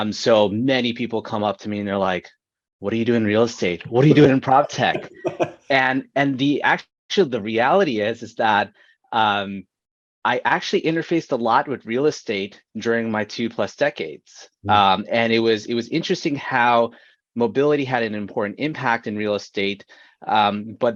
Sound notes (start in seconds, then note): 6.0 laughing